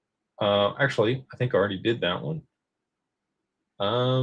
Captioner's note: none